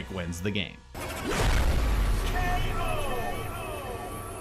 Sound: loud bang sound

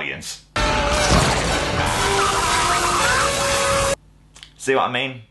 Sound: screams; ahhhh

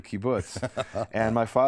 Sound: laughter

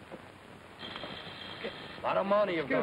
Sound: buzzer

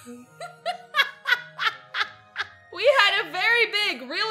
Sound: both laugh; laughs

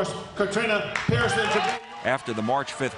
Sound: audience cheering

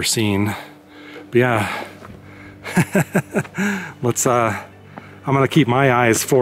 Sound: laughter

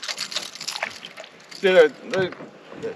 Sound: fish splashing

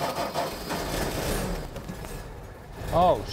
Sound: car starting

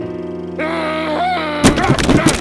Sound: groans; grumbles

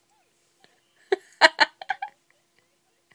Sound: laughing

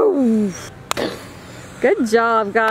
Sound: imitates explosion

